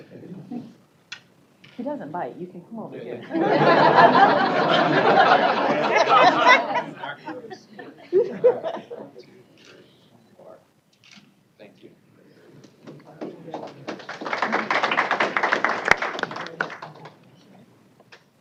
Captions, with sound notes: >> HE DOESN'T BITE. YOU CAN COME OVER HERE. [ LAUGHTER ] >> ONE, TWO, THREE. HOLD ON. >> THANK YOU. [ APPLAUSE ]